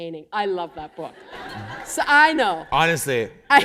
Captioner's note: laughter